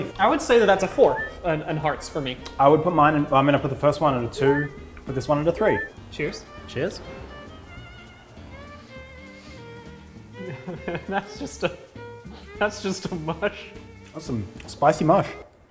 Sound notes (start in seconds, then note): 10.4 worried laughter